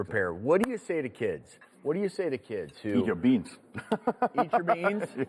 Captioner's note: laughs